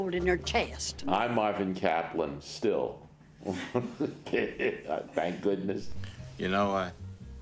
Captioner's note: laughs